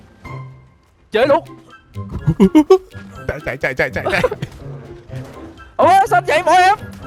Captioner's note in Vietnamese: tiếng cười